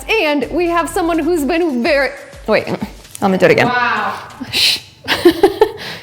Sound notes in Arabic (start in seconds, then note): 5.0 يضحك